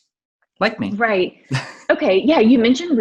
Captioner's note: laughs